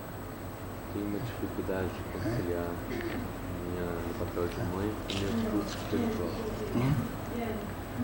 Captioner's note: speaks Portuguese